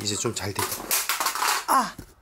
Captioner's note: The sound of EMP crashing to the ground